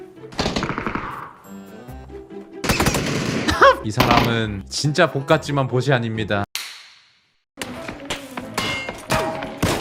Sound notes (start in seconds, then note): 3.3 haha